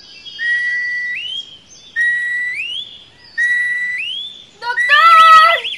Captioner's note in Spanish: pájaros; grita